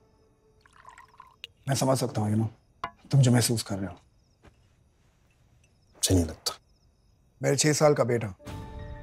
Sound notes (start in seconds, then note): 0.6 drink pouring